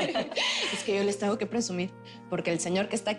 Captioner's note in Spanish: Risas